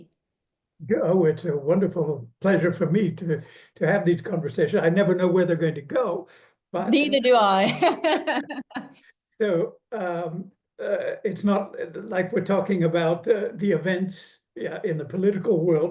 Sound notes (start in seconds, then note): 7.6 laughs